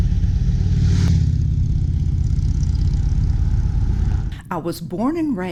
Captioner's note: motorcycle engine sound